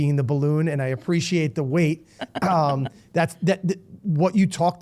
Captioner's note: laughing